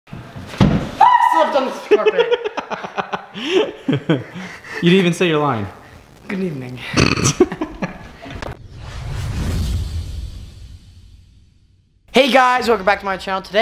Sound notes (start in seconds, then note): 1.9 laughing; 7.0 laughing; 8.3 swooshing